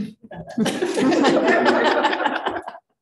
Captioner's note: chuckling